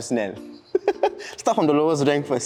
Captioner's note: laughs